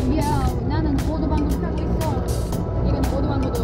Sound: motor Bike

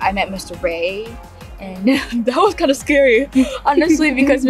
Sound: chuckles

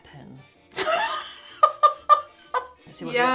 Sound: laughing

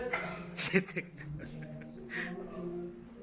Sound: giggled

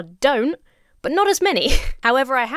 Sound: chuckles

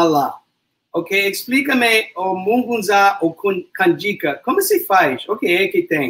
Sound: speaks portuguese

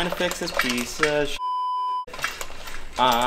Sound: beep

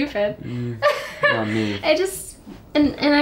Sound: emma laughs

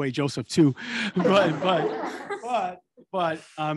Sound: attendees laughing

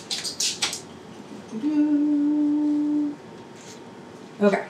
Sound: humming

